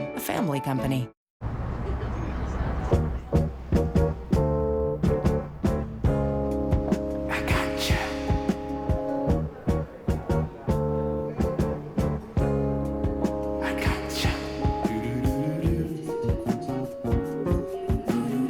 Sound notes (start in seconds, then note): 1.6 laughter, indistinct chatter